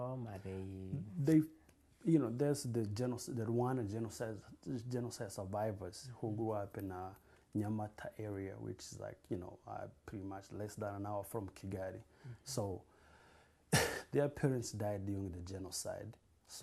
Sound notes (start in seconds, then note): 7.7 non-english